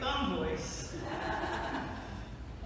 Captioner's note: laughter